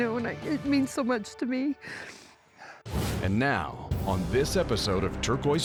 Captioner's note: says tearfully